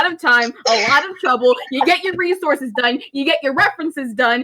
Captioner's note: giggling at the ranting